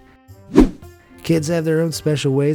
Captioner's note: air whooshing